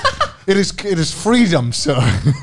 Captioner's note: laughing